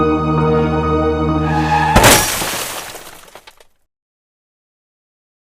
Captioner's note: car crash